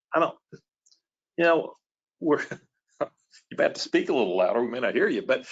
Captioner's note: laughs